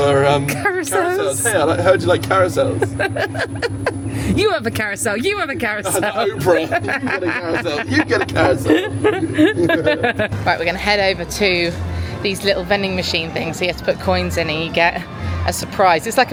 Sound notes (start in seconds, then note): 1.0 laughing; 2.9 laughing; 7.1 laughing; 10.0 both laughing